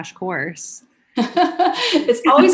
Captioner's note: laughs